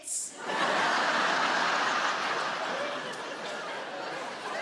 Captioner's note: audience laughing